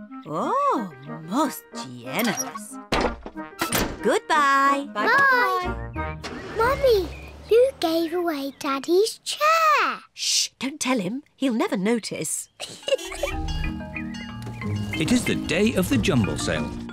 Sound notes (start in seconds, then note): 12.6 giggles